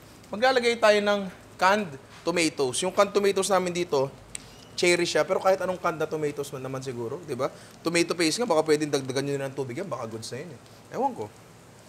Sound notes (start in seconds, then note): none